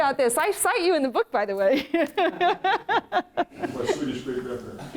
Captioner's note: laughs